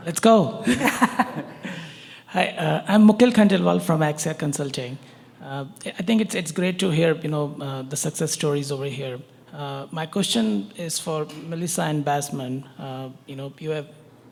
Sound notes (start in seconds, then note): 0.6 chuckles